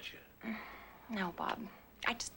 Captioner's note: sighs